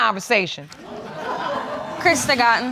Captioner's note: audience laughing